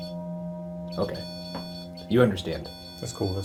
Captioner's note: EMF beeping